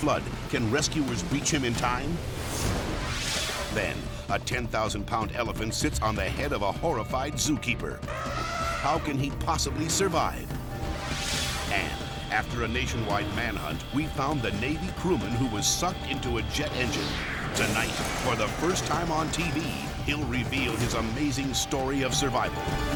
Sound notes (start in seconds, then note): 2.2 air whooshes; 8.0 elephant trumpeting; 10.5 air whooshes